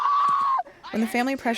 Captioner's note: shrieking